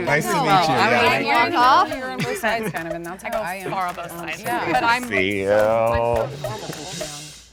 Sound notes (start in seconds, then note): 1.6 group buzzing